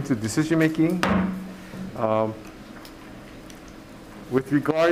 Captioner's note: gavel bangs